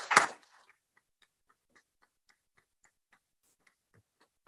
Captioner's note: applause